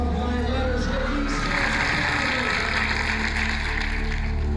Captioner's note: applause